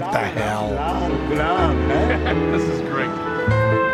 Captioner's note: non-english speech